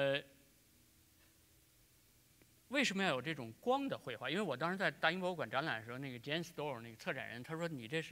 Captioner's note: speaking in Chinese